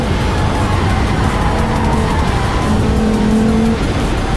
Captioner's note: tires squeal